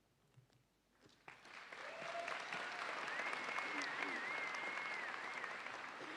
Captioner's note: audience applauds and cheers